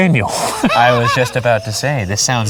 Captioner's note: laughing